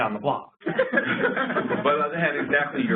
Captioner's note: laughter